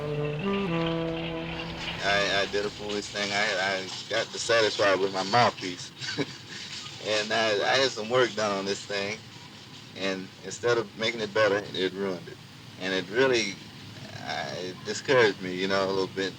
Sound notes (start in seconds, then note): 0.0 saxophone music; 6.1 laughs